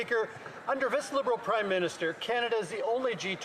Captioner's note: some Applause